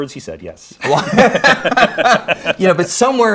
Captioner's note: both laughing